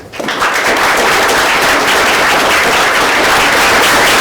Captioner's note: audience applauding